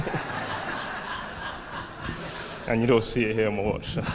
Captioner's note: audience laughing